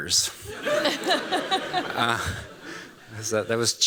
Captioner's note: laughter